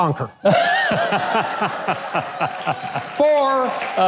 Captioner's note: crowd laughing